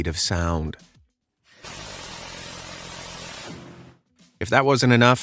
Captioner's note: gun blasting